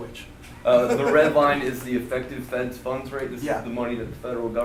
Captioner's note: voiceover